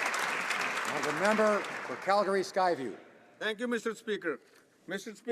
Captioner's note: some Applause